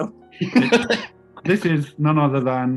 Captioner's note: laughing